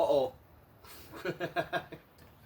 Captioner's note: laughs